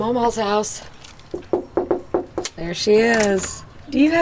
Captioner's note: knocking